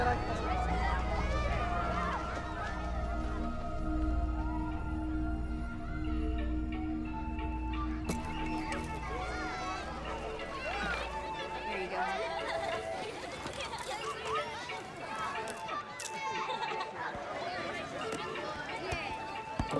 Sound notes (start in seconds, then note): 7.2 jaunty music; 12.7 children chattering and laughing; 14.0 camera shutter clicks; 16.2 child laughs